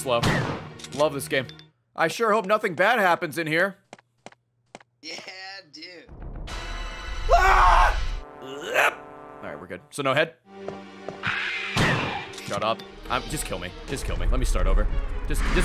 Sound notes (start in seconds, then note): 7.2 screams